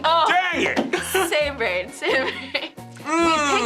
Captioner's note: laughs